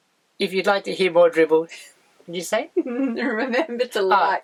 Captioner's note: giggle